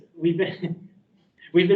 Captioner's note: laughs